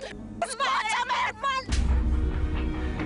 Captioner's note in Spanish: Exclamaciones